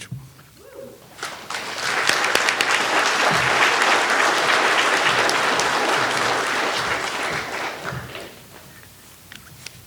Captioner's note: all clapping